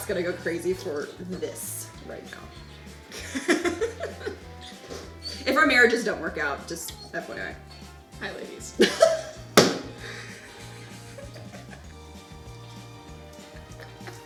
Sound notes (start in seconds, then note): 9.3 slaps table; 10.0 laughing